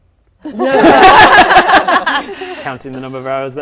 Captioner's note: laughing